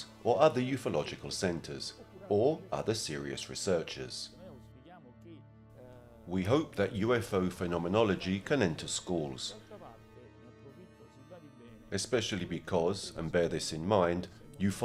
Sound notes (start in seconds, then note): 4.7 speaking in foreign language